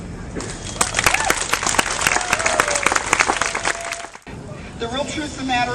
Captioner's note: applause